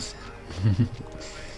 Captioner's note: giggle